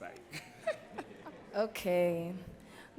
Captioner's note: laughs